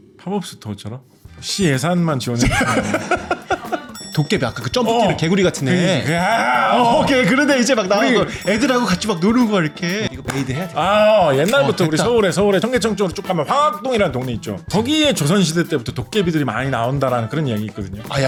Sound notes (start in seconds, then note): 1.4 intriguing music; 2.4 laughter